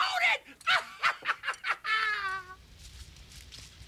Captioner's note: laughs